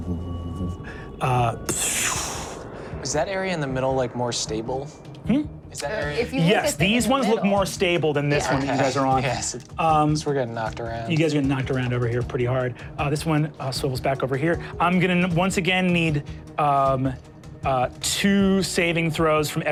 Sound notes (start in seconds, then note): 2.0 making explosive like sounds